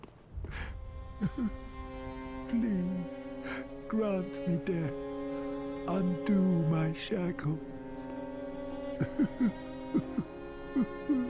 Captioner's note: sobbing